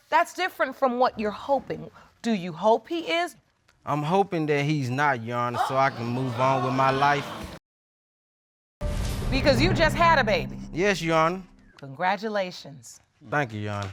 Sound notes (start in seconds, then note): 5.5 audience exclaiming